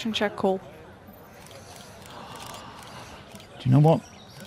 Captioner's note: gasps